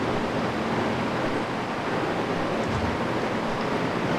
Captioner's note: machinery whirring